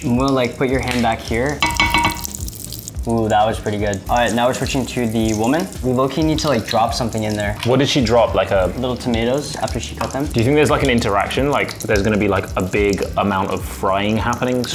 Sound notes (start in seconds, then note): 1.6 spatula clangs against pan